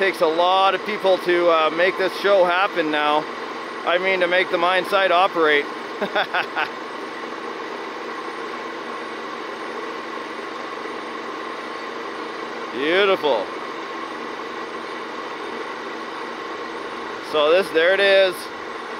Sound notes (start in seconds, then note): 6.6 laughing